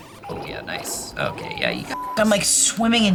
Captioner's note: beep